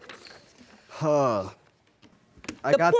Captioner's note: sighs